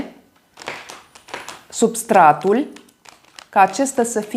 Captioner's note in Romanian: Aplauze